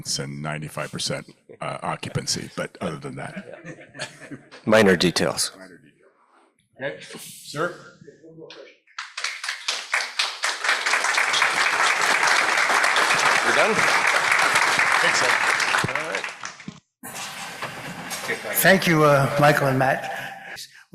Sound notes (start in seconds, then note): 9.0 applause